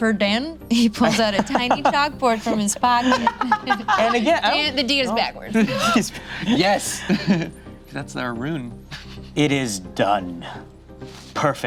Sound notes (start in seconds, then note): 2.8 laughs